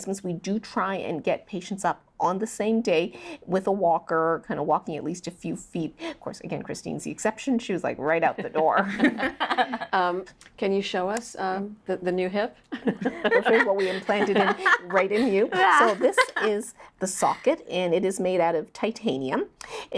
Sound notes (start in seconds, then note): 8.3 laughs; 12.7 laugh